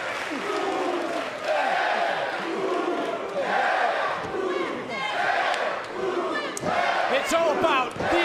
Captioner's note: crowd chants